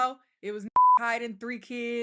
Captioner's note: beep